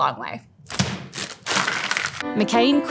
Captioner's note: fries pack thudding; plastic crinkling